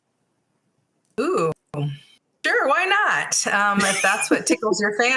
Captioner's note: laughing